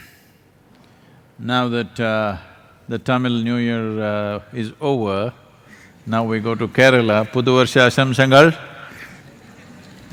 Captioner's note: speaks in Malyalam - not transcribed